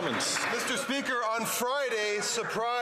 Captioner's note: some Applause